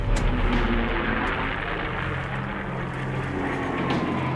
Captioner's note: planes whir